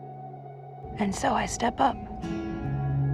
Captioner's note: voiceover